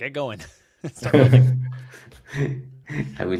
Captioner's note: laughter